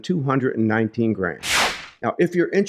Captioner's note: air whooshing